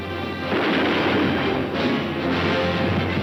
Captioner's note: gun firing